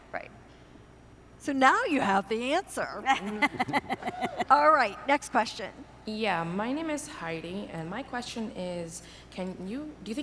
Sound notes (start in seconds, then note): 3.0 laughing